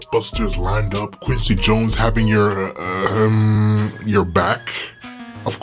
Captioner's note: ahem